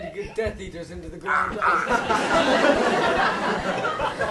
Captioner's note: Voldemort makes a choking sound